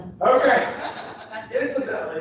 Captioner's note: laughter